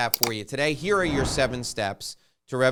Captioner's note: clicking; whooshing